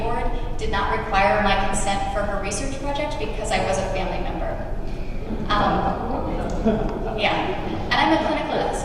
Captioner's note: audience murmuring